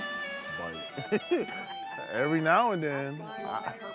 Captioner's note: calm music; laughs